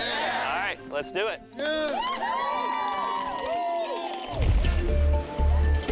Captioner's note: cheering